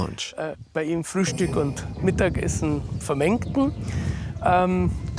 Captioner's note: German spoken audio